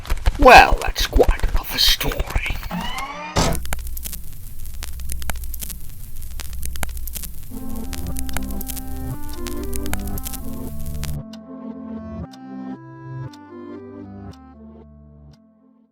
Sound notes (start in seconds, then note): 4.0 Static